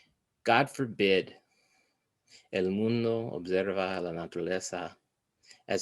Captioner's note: foreign language